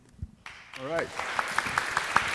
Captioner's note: audience applauding